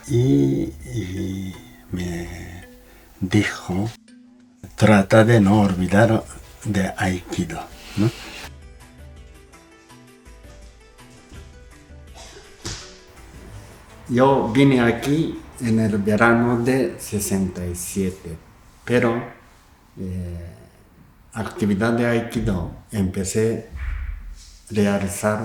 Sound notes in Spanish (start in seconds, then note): 9.2 sonido desplazamiento en tatami y caída